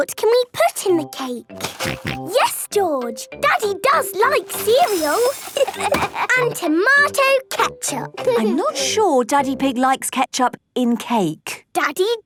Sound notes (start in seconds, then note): 2.1 snorting; 5.6 laughter